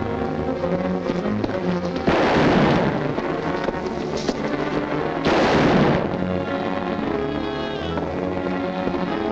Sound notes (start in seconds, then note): 2.3 gun firing; 6.6 tense music